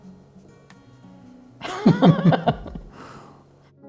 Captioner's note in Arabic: يضحك